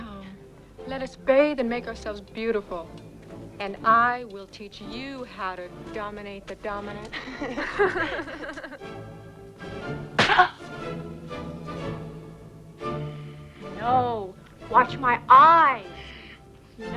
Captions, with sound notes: Come, let us bathe and make ourselves beautiful, and I will teach you how to dominate the dominant. (Both laugh) (Tracima groans) No, watch my eyes,